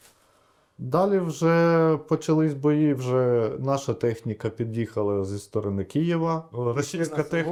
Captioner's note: Ukrainian